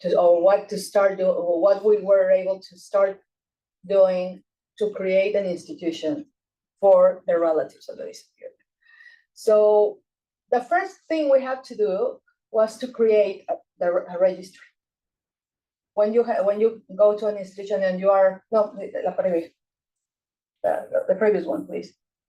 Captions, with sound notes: or what to start it or what we were able to start doing to create an institution for the relatives of those people. So the first thing we had to do was to create the a registry. When you go to an institution and you are no, (speaking Spanish) the previous one, please.